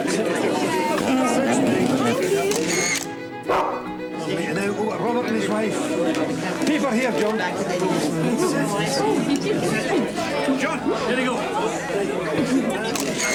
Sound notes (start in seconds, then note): 1.2 dog whining; 2.4 camera clicking; 3.4 dog barking; 12.9 camera clicking